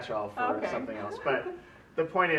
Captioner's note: laughs